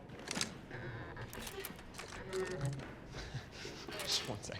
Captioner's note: trolley squeaks and jangles